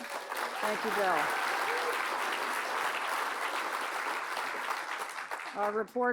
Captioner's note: applause